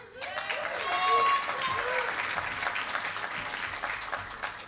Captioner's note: applause